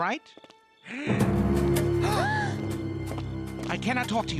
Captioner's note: gasp